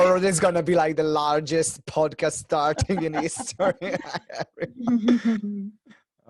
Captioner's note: laughs